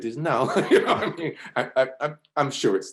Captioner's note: laughs